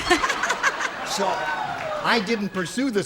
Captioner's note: laughter